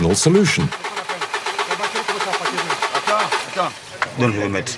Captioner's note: foreign language